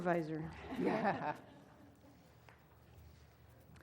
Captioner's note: laugh